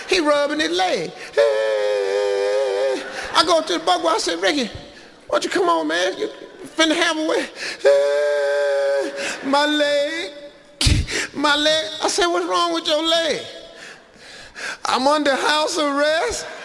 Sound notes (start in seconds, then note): 1.4 Steve imitates Ricky crying; 7.8 Steve imitates Ricky crying